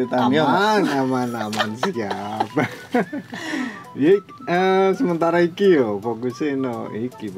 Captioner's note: laughs